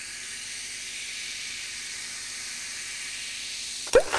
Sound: popping sounds

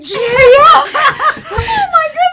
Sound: laughs

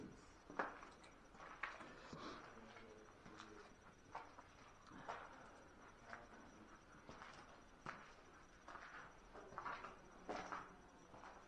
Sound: footsteps

